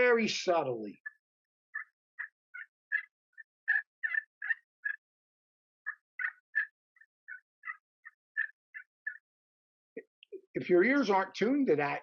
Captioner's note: turkey call